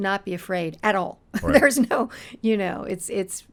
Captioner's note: laughing